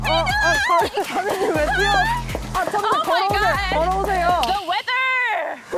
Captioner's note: sound of Queen Gabee running